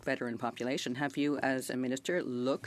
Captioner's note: speaking French